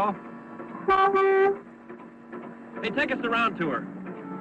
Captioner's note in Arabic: صوت بوق